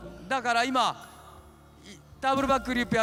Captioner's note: speaking japanese